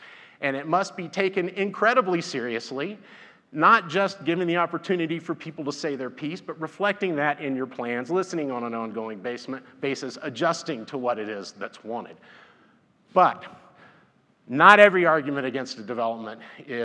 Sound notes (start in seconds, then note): none